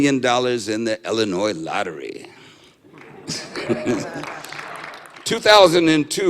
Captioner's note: laughter and light applause